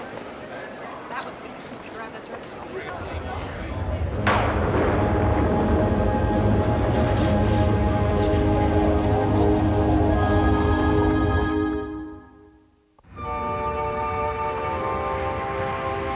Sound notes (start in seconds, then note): 3.6 thunderclap; 5.6 rumbling